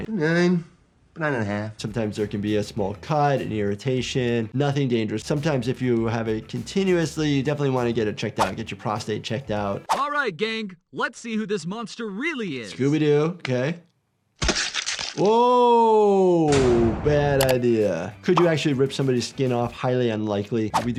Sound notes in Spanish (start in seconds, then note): 16.2 barras de prisión golpeando